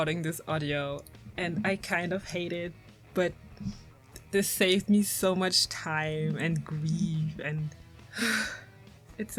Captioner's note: sigh full of coding trauma